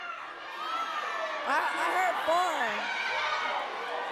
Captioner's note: audience yelling simultaneously